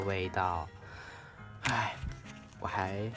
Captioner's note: breathing